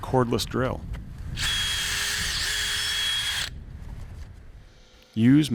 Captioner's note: drill whirring